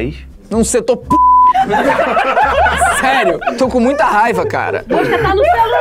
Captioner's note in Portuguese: risadas